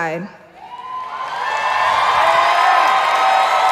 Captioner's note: applause